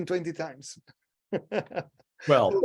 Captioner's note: laughing